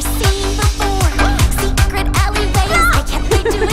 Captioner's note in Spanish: grita; ríe